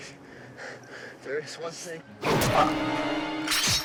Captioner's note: fleshy thunk